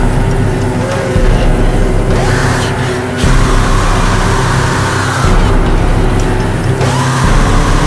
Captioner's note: screams